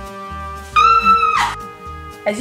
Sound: squeals

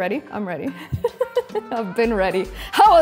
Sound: laughs

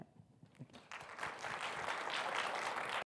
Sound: audience clapping

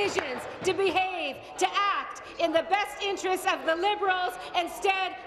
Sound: applause

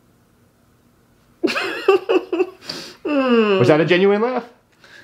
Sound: interviewee laughs

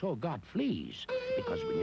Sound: slide whistle decrescendo

